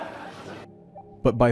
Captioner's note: major Laughter